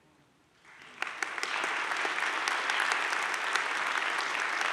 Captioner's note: audience claps